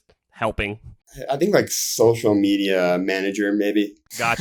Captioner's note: laughs